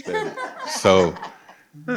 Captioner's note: participants laugh